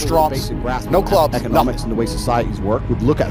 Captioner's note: laptop audio